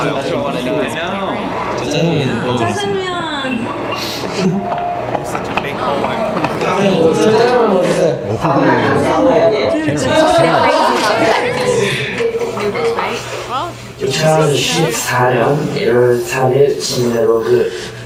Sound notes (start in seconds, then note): 4.0 giggles; 10.1 laughs